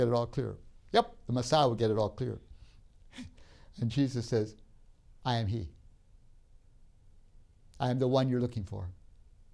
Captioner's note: laughs